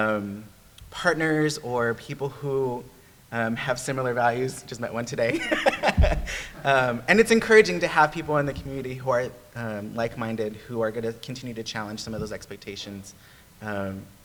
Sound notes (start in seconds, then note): 5.2 laughs